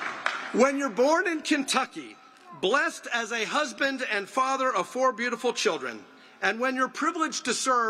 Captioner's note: applause